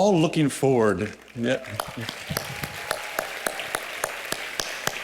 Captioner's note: applause